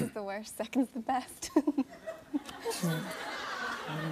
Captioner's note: chuckles; laughter